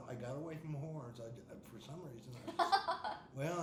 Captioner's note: laughing